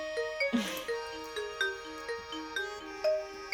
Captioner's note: laughs